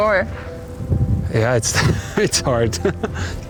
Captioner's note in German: lacht